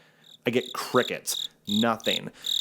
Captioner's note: crickets chirping